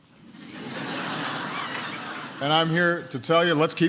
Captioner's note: laughter